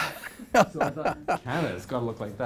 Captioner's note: laughing